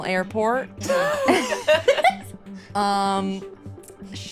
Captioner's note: laughs